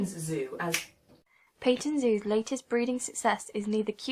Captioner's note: clicks fingers